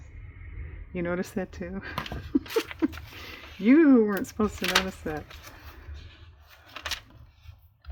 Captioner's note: laughs